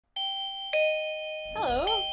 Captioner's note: doorbell